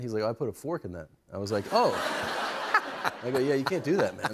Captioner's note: laughter